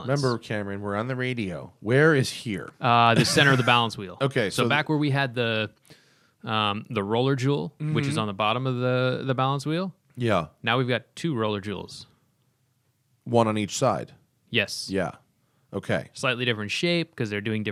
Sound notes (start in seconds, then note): 3.1 laughter